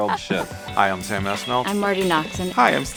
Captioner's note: group laughter; upbeat music